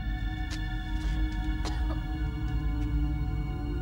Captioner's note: Caroline coughing; gentle tense orchestral music